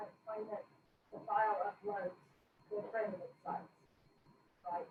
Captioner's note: speaking faintly